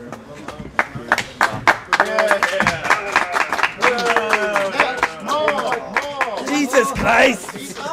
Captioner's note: applause